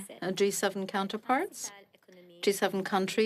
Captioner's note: speaking French